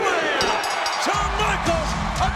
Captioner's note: bell rings